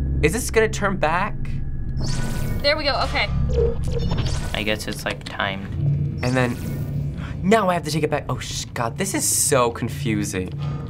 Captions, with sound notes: - Is this gonna turn back? (warbling) - There we go, okay. (buzzing and faint humming) - I guess it's timed. - And then-- (gasps) now I have to take it back. Oh, sh-- god, this is so confusing.